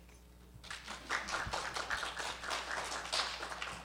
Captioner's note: applause